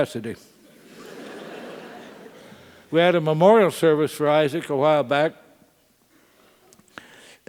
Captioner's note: laugh